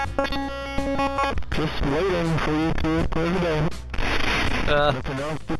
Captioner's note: glitching noise